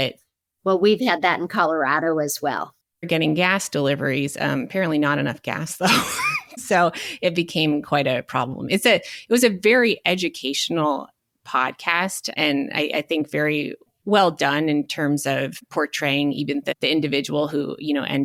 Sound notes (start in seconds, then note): 5.8 chuckles